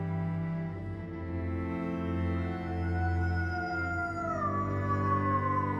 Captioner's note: man howling; howling continues